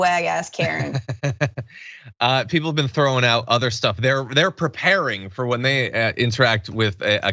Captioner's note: laugh